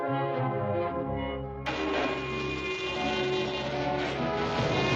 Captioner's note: train horn blaring